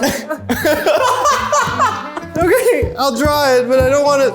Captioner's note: all laughing